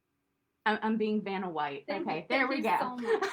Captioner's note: laughter